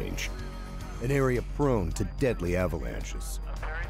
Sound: voiceover

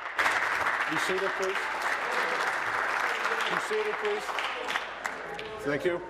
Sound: applause

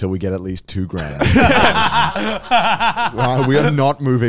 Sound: all laughing

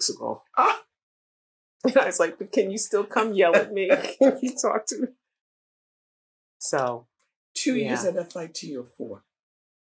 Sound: laughter

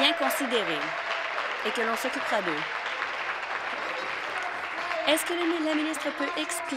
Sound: applause; continued applause

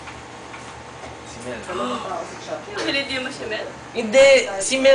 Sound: gasp!

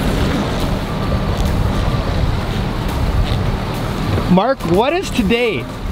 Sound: boat moving through water

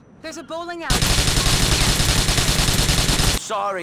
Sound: gunfire

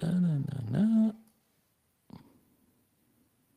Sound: hums

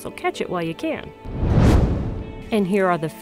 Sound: whoosh

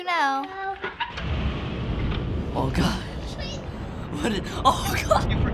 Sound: wind hissing

